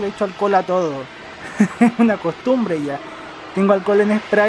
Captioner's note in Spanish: risas